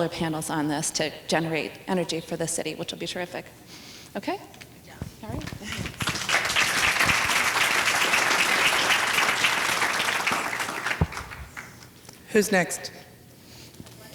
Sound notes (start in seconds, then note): 5.4 applause